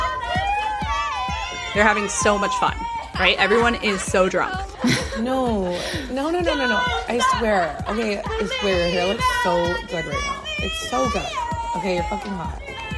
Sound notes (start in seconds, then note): 0.0 voice actors singing; 4.4 VO: drunk girl voice